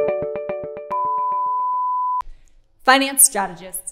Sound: gentle music; beeps

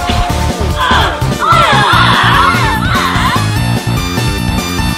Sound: argueing

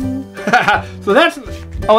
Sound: Mr. Engineer laughs

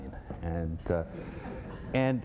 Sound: laughter

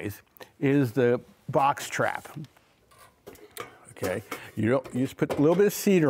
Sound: metal clanking

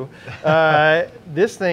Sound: laughing

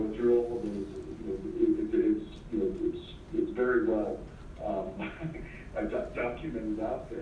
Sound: laugh

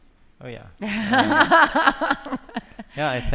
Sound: laughter

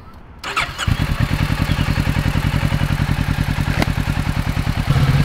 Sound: engine revs

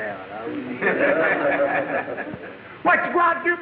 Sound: audience laughing

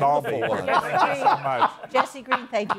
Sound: laughter

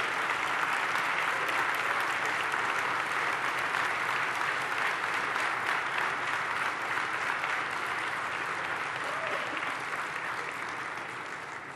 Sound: cheers and applause

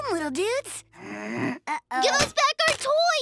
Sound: growls

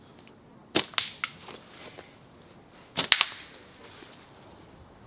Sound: target thudding

